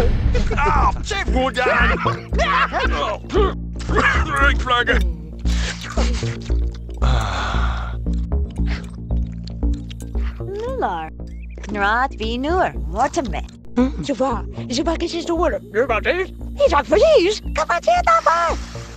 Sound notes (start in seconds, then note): 1.6 laughter